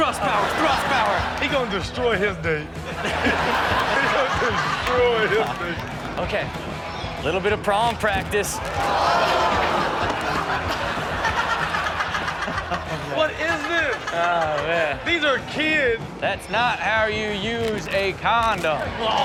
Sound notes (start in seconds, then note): 2.7 all laughing; 8.7 audience exclaiming and laughing; 11.6 Chanel and audience laughing